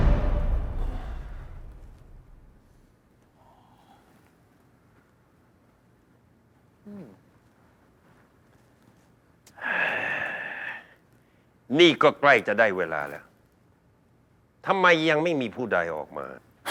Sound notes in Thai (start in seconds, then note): 9.5 เสียงถอนหายใจ